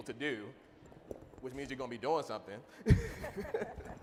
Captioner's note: chuckling